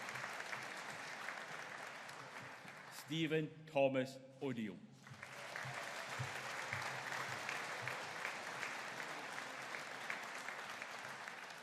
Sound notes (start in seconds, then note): 5.0 audience applauding